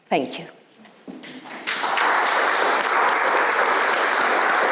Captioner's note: audience applauds